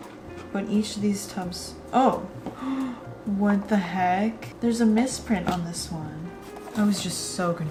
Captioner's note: gasp